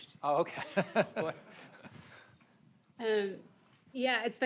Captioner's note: all laughing